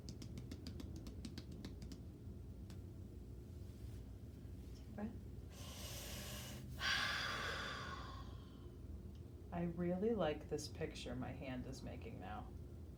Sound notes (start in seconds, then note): 5.5 breathing deeply